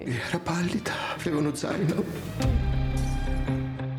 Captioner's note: speaking Italian